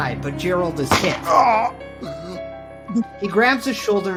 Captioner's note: Gerald groans